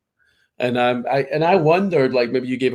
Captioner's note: laughs